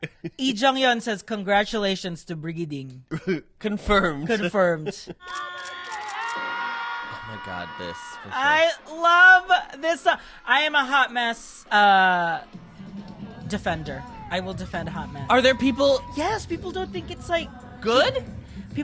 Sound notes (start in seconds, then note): 5.2 camera shutter